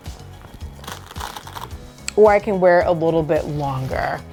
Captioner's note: strap clicks